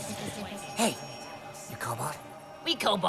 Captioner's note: conspiratorially